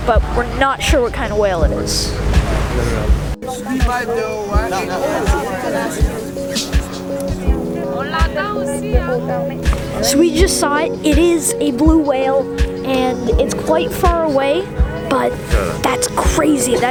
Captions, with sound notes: but we're not sure what kind of whale it is. (crowd talking) So we just saw it, and it is a blue whale. And it's quite far away, but that's crazy.